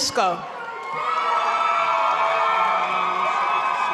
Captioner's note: applause